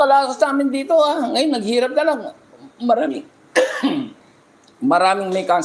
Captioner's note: coughing; clearing throat